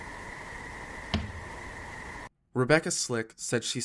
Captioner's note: cabin thumps